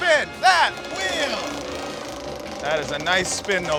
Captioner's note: clicking